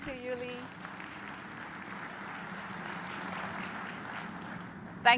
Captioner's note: applause